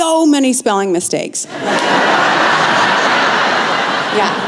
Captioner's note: laughter